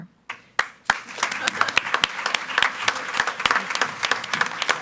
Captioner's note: audience applauds